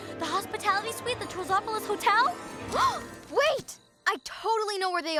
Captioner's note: gasps